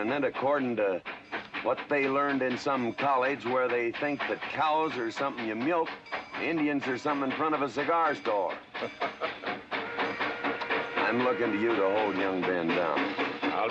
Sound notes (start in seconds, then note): 9.3 train chugging & whistle blowing